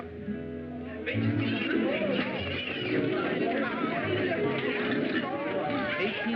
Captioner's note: chatter